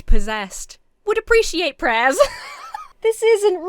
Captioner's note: laughs